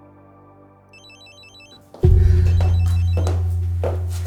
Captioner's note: phone rings